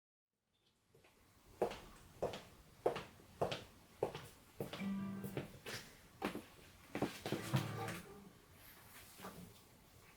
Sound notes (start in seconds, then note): 1.9 footsteps clicking